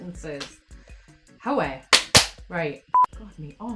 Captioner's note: claps hands